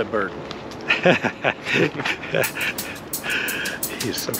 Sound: laughs; upbeat music

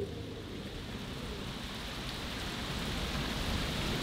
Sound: rain falling

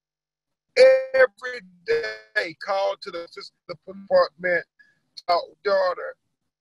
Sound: audio glitch

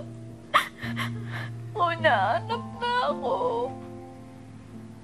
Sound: sniffles; sobs

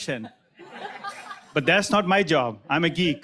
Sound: crowd laughing

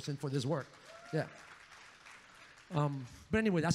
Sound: audience cheers

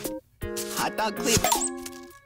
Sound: smack

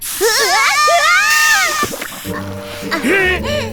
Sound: both yell

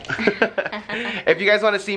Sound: both laugh

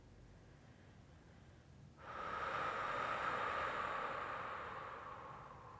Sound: slowly inhales and exhales

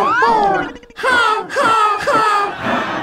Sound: Elmo laughs robotically; Borg laughs

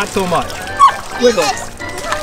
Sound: dog barks

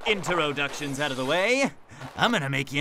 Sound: glass shattering

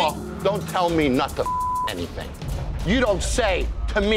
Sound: beeping

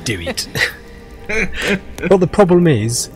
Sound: laughs

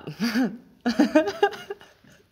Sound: laughs

